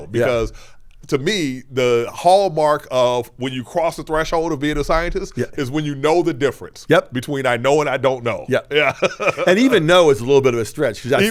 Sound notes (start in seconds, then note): 8.6 laughs